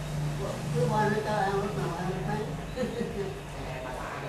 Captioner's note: laugh